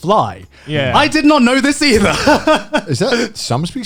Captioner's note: laughs